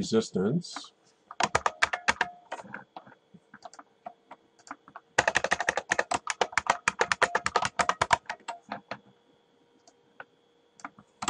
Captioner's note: typing